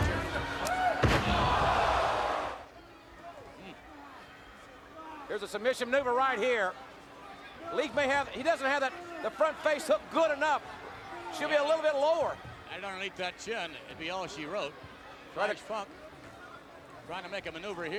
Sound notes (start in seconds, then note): 1.0 body thudding; 1.0 audience gasping